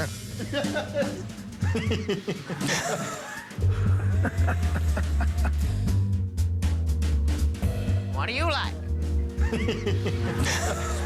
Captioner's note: laughter